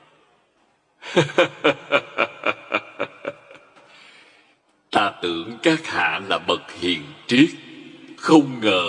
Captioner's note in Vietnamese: Tiếng cười